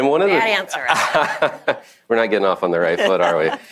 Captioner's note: laughs